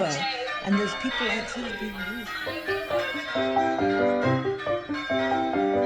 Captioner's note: cheers, ringing of bells